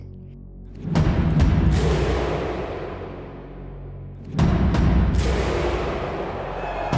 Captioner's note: drums rolling; people chanting